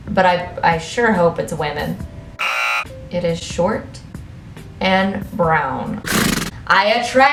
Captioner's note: hockey buzzer sound effect; horse snort sound effect